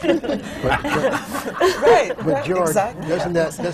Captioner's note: laughter